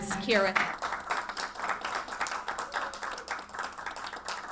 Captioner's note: audience clapping